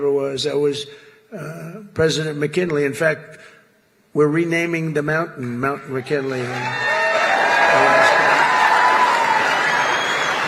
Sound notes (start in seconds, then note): 6.0 applause